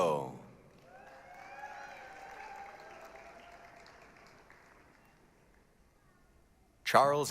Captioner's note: applause, cheering